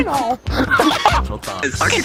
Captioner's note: laughs in Mouse